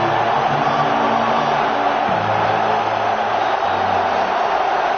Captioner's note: crowd cheering